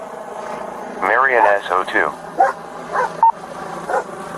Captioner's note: radio chatter